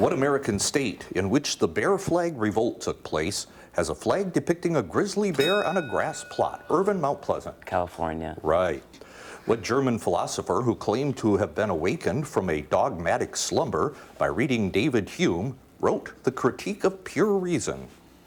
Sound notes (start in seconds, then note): 5.3 ding